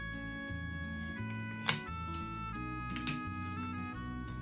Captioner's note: blocks clicking together